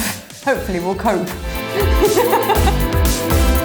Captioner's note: laughter; upbeat electronic music